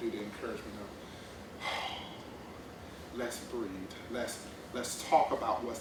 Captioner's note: exhales